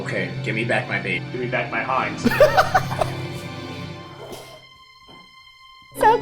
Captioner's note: laughs